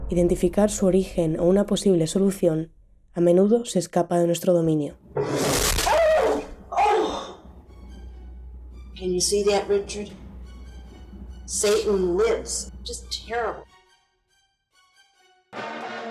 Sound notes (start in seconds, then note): 5.2 explosion and screaming